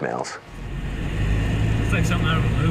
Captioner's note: engine rumbles